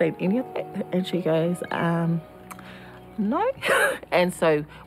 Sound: laughs

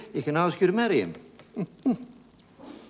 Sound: chuckles

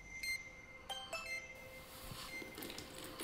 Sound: phone ringing

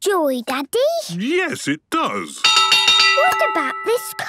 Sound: clanging

